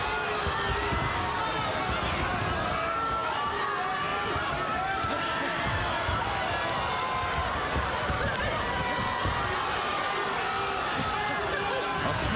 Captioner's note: cheers and applause